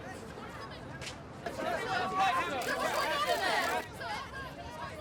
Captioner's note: reporters chattering